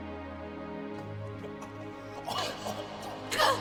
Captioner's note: coughing & choking